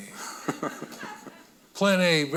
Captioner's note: audience laughing